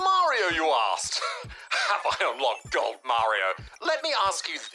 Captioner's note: laughs nervously